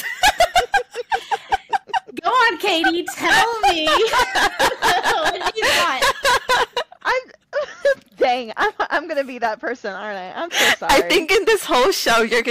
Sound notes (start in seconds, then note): 0.0 laughter